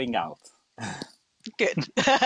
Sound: chuckles

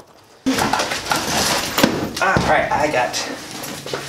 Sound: enclosure fumbling

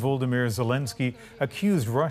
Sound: speaking Foreign Language

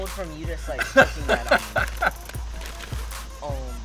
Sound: laughing

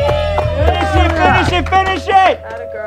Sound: everyone cheers

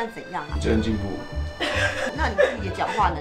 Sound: people at the back are laughing hysterically

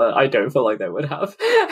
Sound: laughs

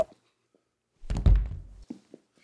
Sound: thud

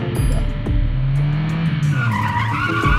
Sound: tire sounds

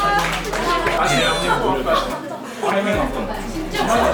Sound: Jae Il bursts into tears

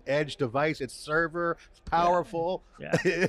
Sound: laughs

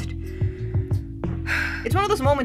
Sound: overwhelmed sigh

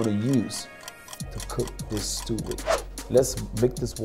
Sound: clock ticks

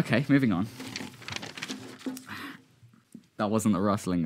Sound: rustling paper

